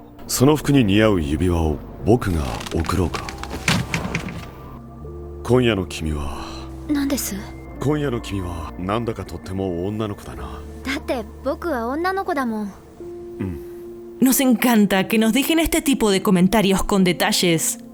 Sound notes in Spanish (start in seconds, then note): 2.5 Sonido asiento reclinándose